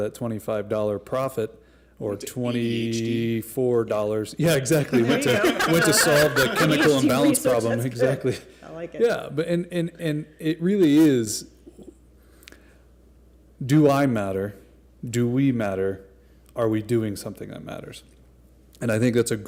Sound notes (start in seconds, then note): 4.5 laughter